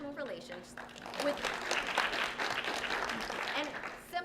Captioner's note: applause